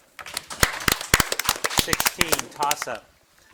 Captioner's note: audience applauding